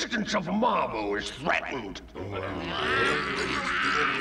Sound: murmuring

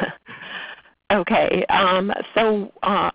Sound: laughs

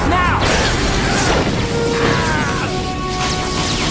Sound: screams

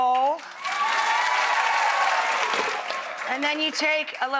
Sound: applause

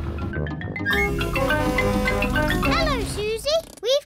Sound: horn blares

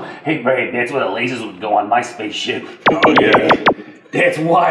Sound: lasers shooting

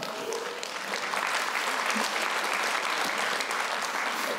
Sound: applause

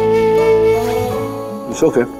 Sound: unzipping the bag

